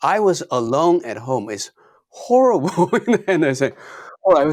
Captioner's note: laughs